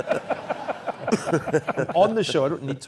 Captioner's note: laugh